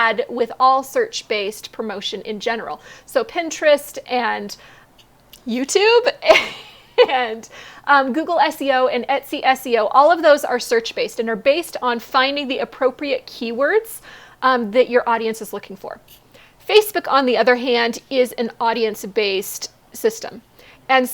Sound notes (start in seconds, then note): 6.2 laughs